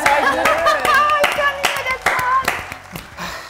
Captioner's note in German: lacht